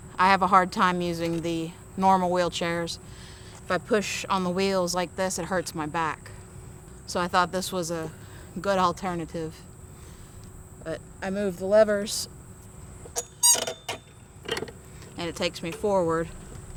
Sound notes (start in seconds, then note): none